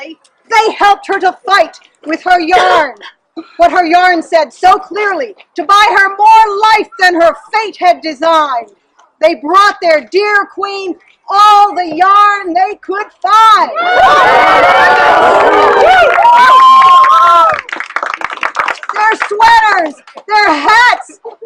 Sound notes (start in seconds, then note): 13.7 cheering